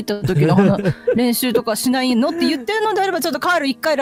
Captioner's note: laughter